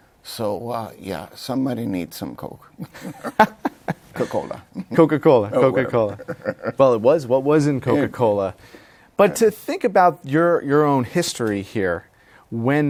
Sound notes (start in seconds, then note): 2.8 laughs